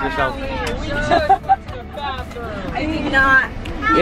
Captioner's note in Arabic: تضحك